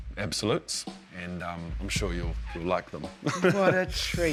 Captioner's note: chuckles